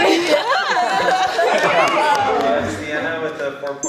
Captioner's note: clapping and cheering